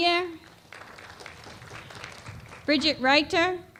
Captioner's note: applause